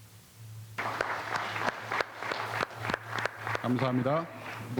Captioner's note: applause